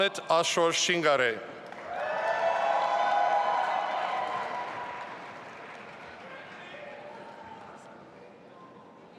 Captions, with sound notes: Amit Ashor Shingare. (audience applauding and cheering)